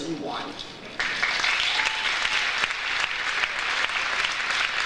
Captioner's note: audience applauds